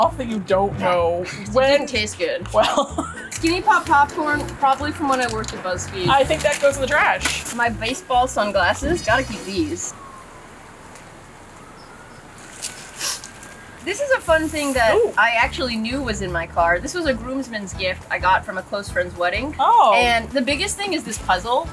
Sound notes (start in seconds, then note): 2.4 laughs; 9.6 sirens in the distance